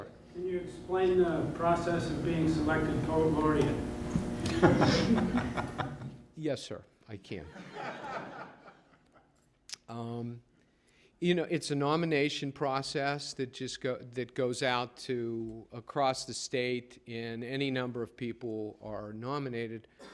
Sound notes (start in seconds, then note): 7.4 laughter